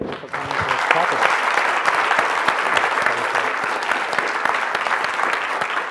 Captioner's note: audience clapping